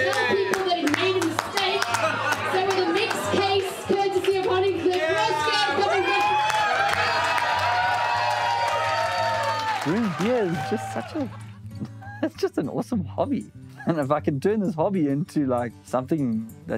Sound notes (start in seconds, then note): 7.0 crowd cheers and applauds